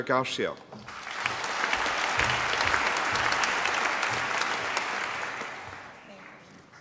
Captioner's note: applause